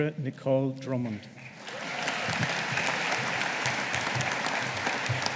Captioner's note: audience applauding